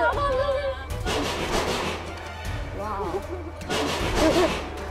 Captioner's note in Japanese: ガンガンガン!!!